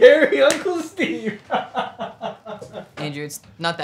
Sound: laughs

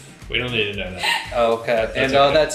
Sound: giggling

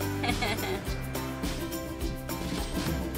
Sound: laughs; upbeat music

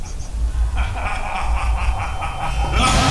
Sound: maniacal laughter

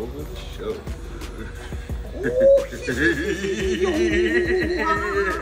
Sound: laugh

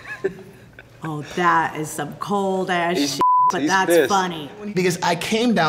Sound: everyone laughs; beep

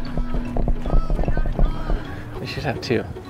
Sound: laughs

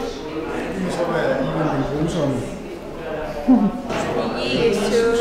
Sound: laughs

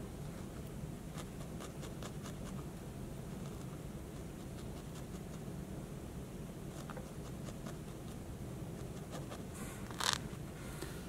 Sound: crunching sound

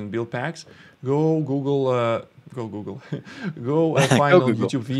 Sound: laughs

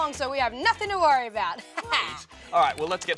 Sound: laughs

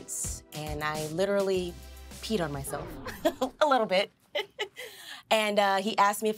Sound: laughs

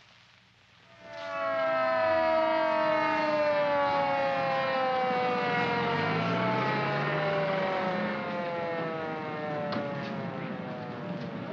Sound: siren wails

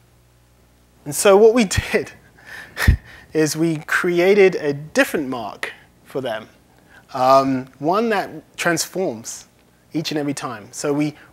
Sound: laughs

